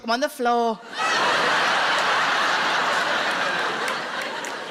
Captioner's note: crowd laughing